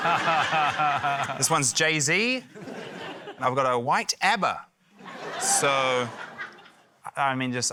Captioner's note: laughter; laughter